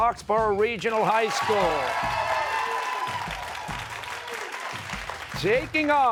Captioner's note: cheers and applause